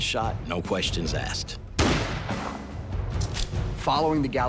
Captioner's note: gun firing